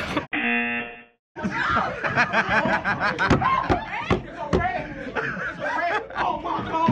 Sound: cameraman laughing

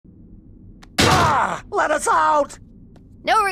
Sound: grunts

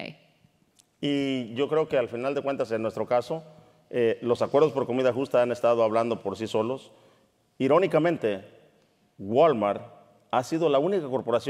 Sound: speaking in Spanish

